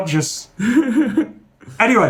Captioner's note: laughing